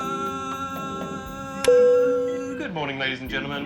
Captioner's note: p.a. system pings